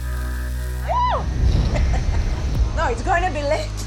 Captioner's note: screams, laughs